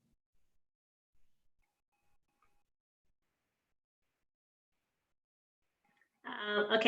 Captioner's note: pause